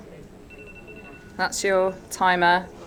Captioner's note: timer rings